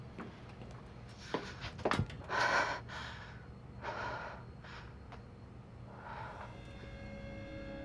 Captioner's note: heavily Breathing